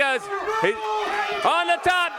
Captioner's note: crowd cheering